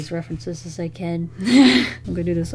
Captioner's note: laughs